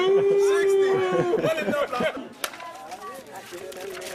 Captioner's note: speaks softly